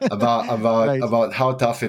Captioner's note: laughs